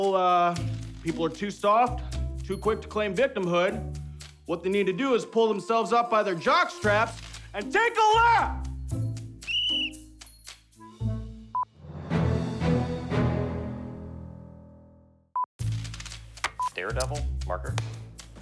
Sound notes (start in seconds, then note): 8.8 signal beeps; 9.4 whistle screeches; 11.4 triumphant music; 14.7 mysterious music; 14.7 signal beeps; 18.2 mysterious music continues